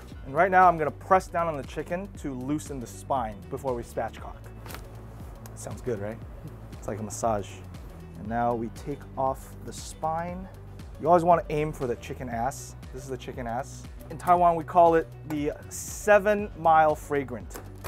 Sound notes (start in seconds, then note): 4.4 bones crunching